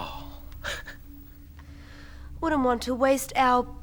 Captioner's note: laughs